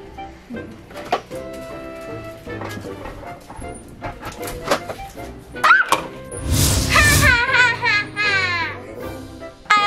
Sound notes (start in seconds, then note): 5.6 scream; 7.1 evil laugh